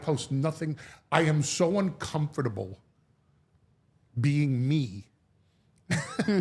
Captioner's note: laughs